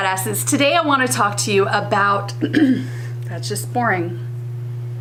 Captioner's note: clearing throat